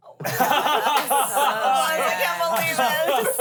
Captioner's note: everyone laughs